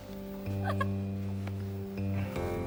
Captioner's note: laughs